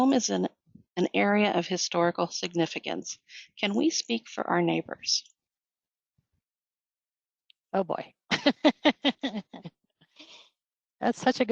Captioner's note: laughter